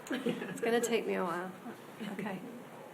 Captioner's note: laughing